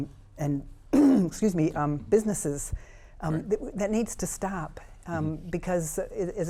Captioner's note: clears throat